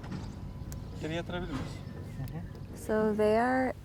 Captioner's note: speaking in foreign language